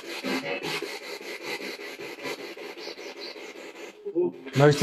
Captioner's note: radio noise from the spirit box